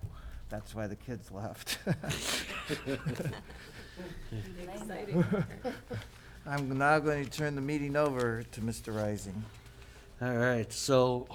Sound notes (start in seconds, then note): 1.7 laughing